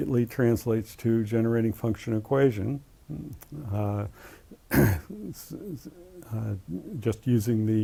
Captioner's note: cough